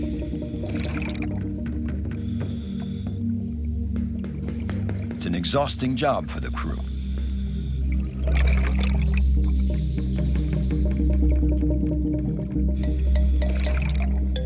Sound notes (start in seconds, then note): 0.3 soft music; 7.8 water gurgling